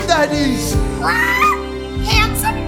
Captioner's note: squawk